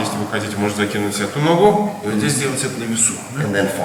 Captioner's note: speaking in a foreign language